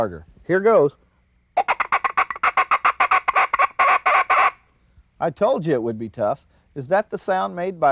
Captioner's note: bird call